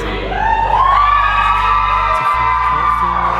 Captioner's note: audience cheering